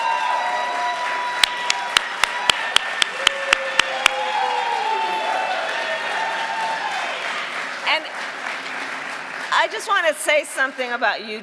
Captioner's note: cheering and applause